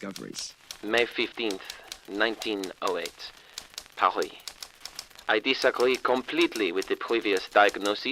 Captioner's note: sound of a typewriter